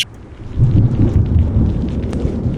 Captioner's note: rain dropping; thunder